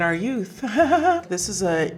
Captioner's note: Serena chuckling